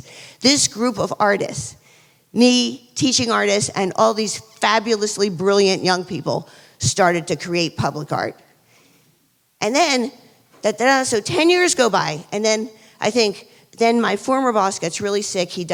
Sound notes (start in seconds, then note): none